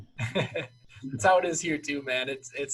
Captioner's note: laughing